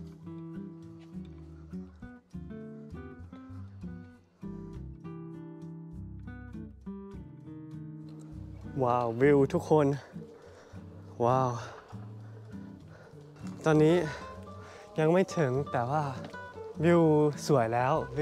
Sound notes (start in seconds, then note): 11.8 almost out of breath